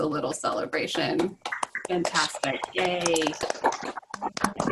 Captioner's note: applause